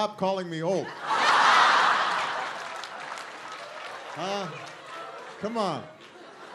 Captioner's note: laughter